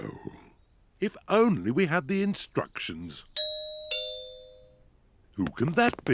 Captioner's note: doorbell rings